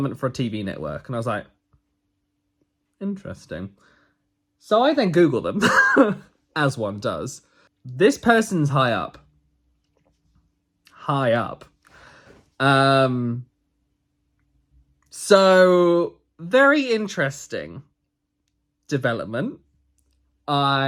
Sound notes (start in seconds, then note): 6.1 laughs